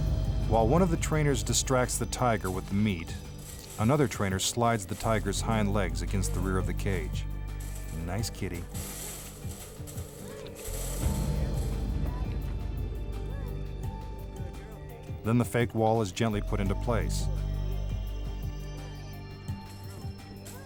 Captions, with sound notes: While one of the trainers distracts the tiger with the meat, another trainer slides the tiger's hind legs against the rear of the cage. Nice kitty. (cage rattling) Then the fake wall is gently put into place.